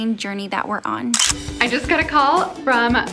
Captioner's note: camera shutter clicks